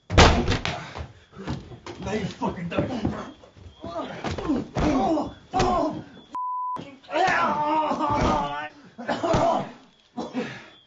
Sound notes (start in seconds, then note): 3.7 groans; 5.1 voiceover